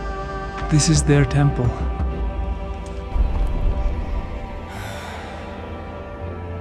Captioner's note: exhales